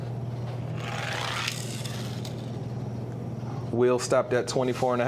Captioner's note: toy car grating